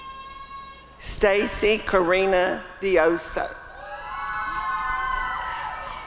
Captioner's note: applause and cheering